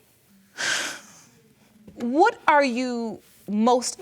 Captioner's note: sobs